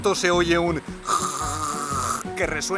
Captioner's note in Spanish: sonido de carraspeo + flema de gran tamaño